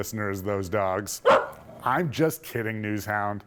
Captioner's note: NewsHound barking